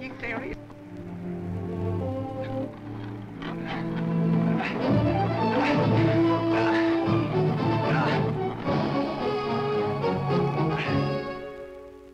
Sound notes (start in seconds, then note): 3.5 Androcles grunts; 5.7 grand orchestral music